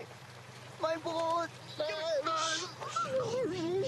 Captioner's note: whimpering in German